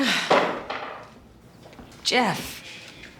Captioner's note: sighs